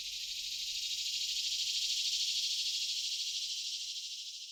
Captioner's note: crickets chirping